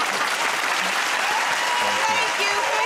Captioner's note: cheers and applause